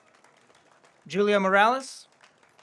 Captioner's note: audience applauds